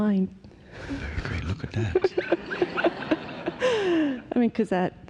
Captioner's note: laughter